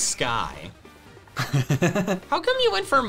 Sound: giggling

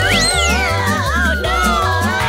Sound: screaming

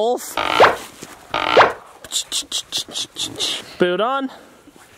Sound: pop sound

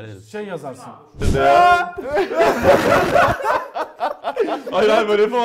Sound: laughs continues

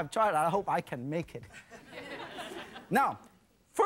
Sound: laughing

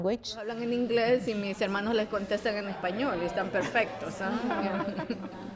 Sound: speaking Spanish

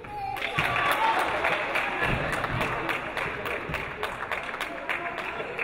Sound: audience applauding

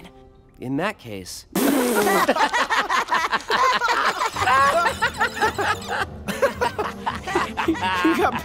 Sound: laughing

